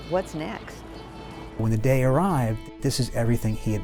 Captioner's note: voiceover